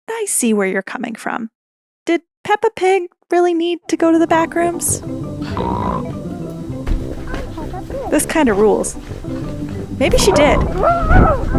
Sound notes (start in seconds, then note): 5.3 snort; 10.7 screaming sounds